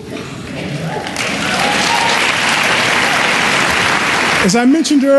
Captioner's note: cheering and Applause